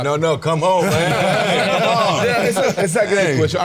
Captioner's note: all laughing